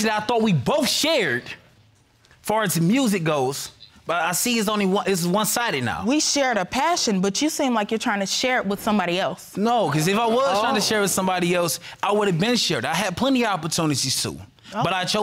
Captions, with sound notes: With a passion that I thought we both shared, as far as music goes. But I see it's only one-sided now. We shared a passion but you seem like you're trying to share it with somebody else. No, 'cause if I was trying to share with somebody else, (AUDIENCE EXCLAIMING) it would have been shared. I had plenty of opportunities to.